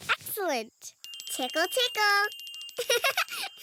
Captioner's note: giggles